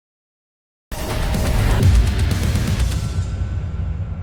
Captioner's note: surreal transition sound